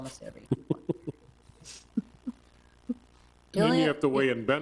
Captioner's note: laughing